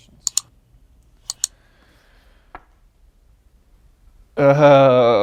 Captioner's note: computer mouse clicking